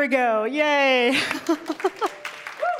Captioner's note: laughs; applause; cheer